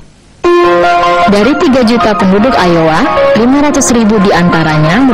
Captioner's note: speaking indonesian